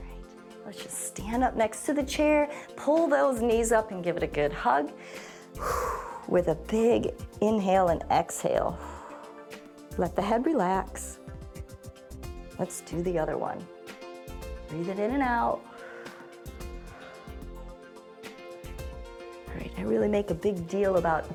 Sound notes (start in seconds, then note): 5.0 inhales and exhales; 15.6 exhales